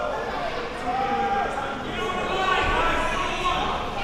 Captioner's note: audience yelling